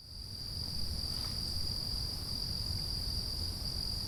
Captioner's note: insects chirping